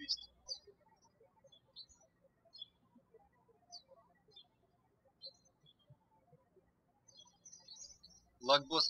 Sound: birds chirping

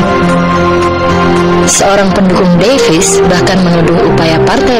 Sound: speaking indonesian

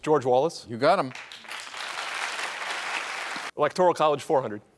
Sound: applauding

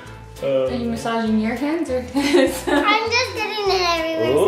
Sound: laughing

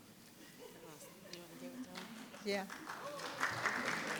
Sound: attendees chuckle; person softly speaking; audience applauding

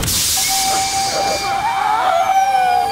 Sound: screaming

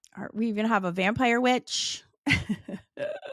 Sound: laughs

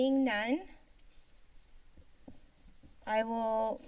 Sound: pause

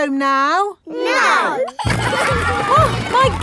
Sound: giggling

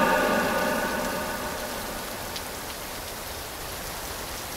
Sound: rain falling

